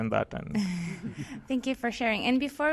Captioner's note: chuckles